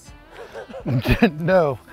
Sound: laughing

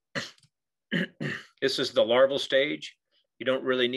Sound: clears troat

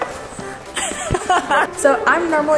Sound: laughs

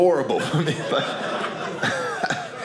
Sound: audience laughing

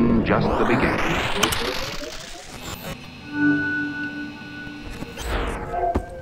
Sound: computer sounds; ominous sounds

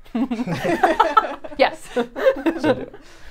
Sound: all laughing

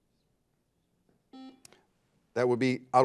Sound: buzzer buzzes

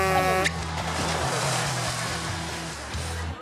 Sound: horn buzzes

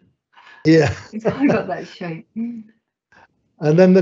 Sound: laughing

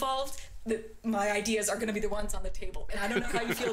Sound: laughter

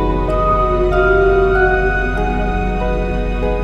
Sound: whale sounds

